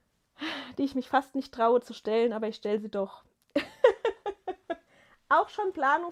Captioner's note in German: gelächter